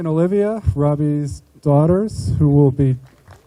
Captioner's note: group applauding